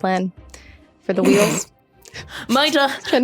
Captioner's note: snickers